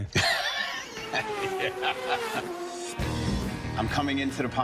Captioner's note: laughs; race cars whiz